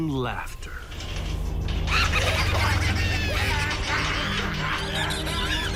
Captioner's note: laughter and rattling